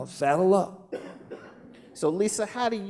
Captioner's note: laughing